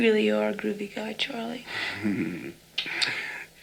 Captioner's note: Charlie chuckles